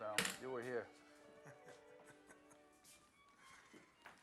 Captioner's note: laughs